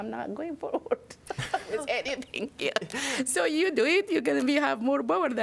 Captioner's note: laughter